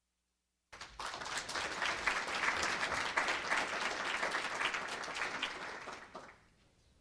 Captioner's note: applause